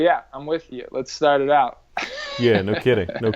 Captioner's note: laughs